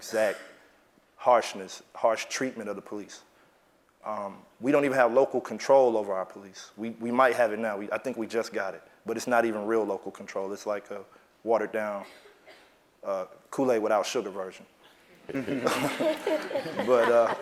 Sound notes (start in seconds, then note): 15.0 laugh